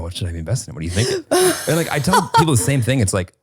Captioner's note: laughing